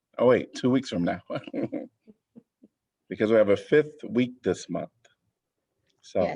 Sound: laughter

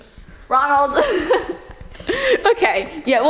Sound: laughing

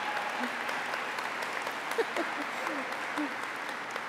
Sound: applause

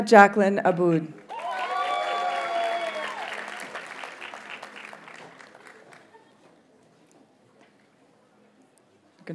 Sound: audience cheers and applauds

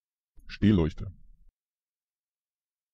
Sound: fast Pronunciation

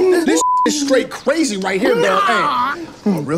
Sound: beeps

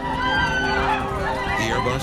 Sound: passengers mumble and scream

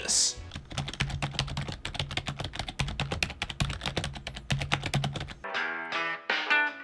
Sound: typing Sounds

